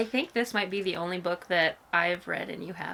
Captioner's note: none